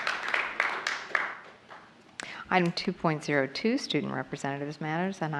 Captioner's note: applause